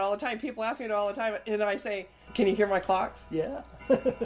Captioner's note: Joy's clocks started chiming in the background